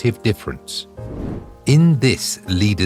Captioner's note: air whooshing